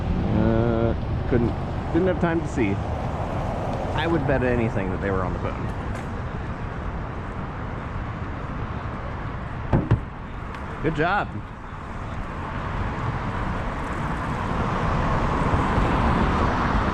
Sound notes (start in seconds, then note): 9.8 tap tap